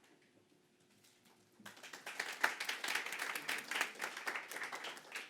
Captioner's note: audience applauding